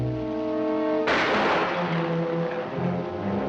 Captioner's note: gunshot; dramatic music